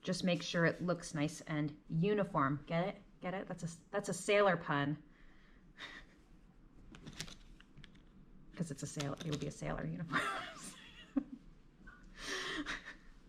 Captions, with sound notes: just make sure it looks nice and uniform, get it, get it? That's that's a sailor pun 'cause it will be a sailor uniform. (laughs)